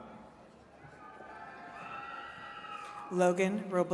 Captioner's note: attendees cheering